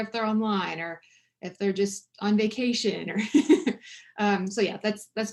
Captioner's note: chuckles